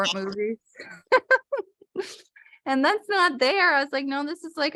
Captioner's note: laughter